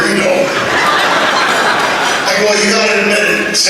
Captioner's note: laughter